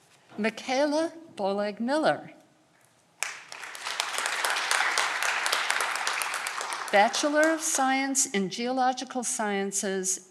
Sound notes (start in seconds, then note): 3.2 audience clapping